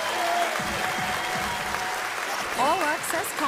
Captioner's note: audience cheers